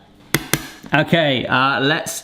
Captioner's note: knife tapping